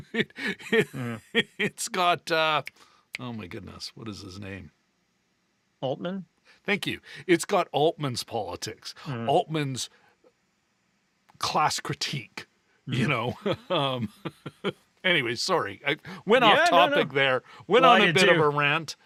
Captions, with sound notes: (laughing) It's got, oh my goodness, what is his name? Altman? Thank you. It's got Altman's politics, Altman's class critique. You know? (laughing) Anyways, sorry. I went off topic there. Went on a bit of a rant.